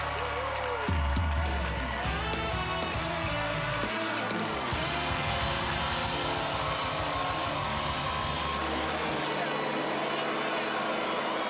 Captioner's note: cheers and applause